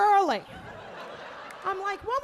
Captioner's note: audience laughing